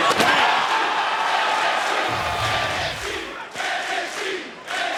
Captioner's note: audience chanting